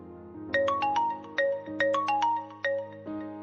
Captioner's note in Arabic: رنين الهاتف